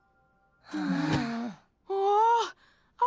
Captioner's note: group sigh